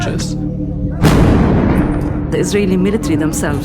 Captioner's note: explosion